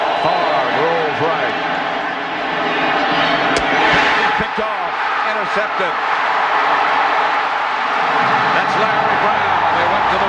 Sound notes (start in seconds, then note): 4.3 crowd cheering